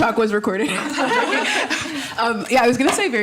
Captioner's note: all laughing